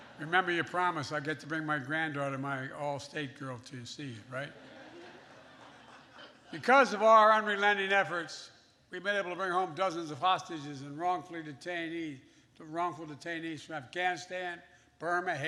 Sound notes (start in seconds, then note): 4.4 laughter